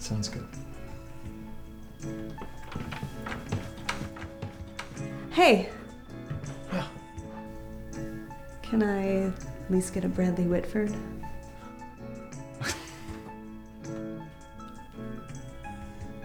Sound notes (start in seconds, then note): 12.6 snickering